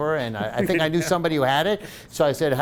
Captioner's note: laughing